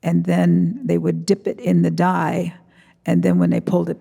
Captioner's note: none